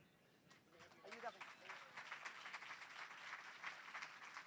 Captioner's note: applause